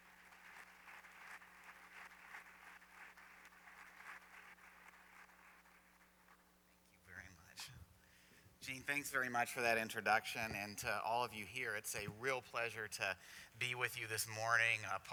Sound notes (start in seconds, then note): 0.0 applause